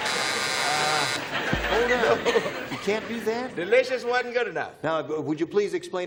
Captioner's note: buzzer